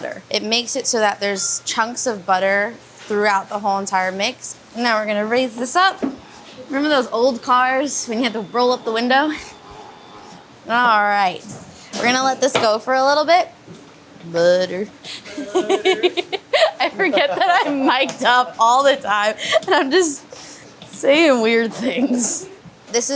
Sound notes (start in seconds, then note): 15.0 laughing